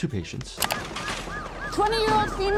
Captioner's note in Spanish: sirenas de ambulancia